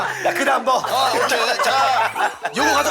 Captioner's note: haha